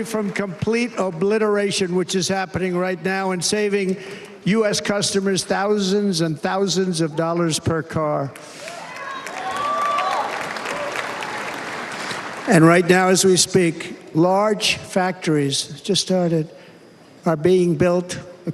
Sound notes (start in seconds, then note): 3.6 cheers and applause